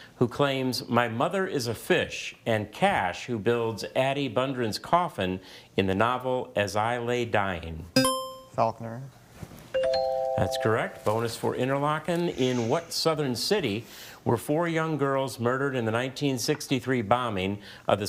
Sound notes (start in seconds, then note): 8.0 buzzer chimes; 9.8 bell chimes